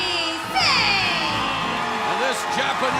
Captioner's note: cheers and applause